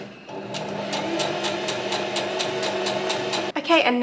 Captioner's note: sewing machine surges